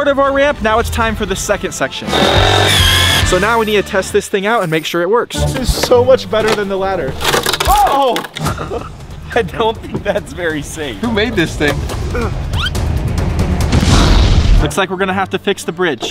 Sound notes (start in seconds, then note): 13.5 wood blasting